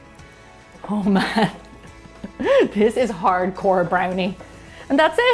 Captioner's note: laughs